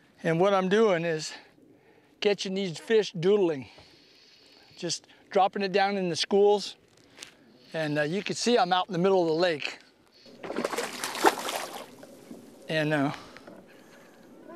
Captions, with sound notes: and what I am doing is catching these fish doodling just dropping it down in the schools and you can see I'm out in the middle of the lake [splashing] and...